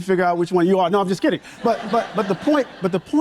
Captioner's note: audience members laughing